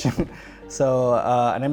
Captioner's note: laughs